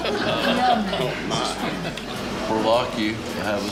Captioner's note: laughs